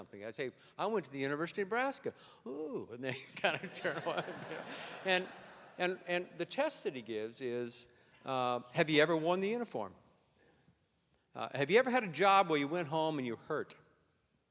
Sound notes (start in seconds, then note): 4.7 laughter